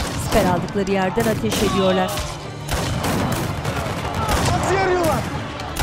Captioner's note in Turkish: Silah sesleri